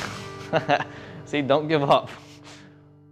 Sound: laughs

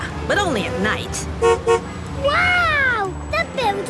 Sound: honks

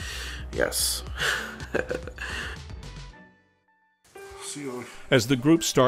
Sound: laughs

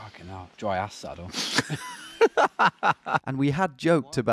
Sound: laughing

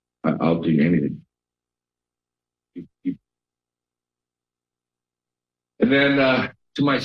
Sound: pause

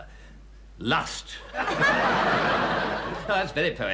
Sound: audience laughing

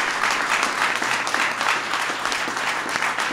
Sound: applause

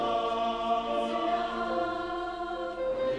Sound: high voices; whole choir

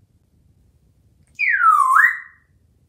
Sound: whistle

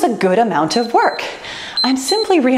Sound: timer beeps

